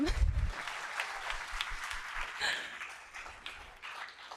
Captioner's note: applause